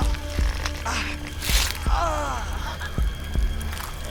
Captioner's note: Will groans